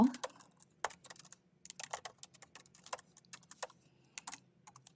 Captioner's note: keyboard clacking